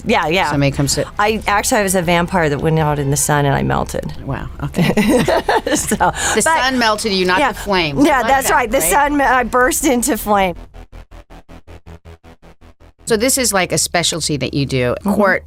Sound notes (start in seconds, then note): 4.8 laughing